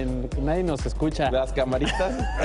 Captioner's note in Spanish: risas